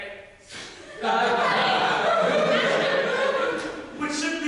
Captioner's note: audience laughter